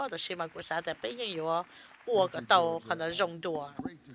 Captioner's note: applause